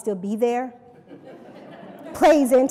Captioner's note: laughter